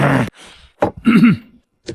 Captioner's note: cough, cough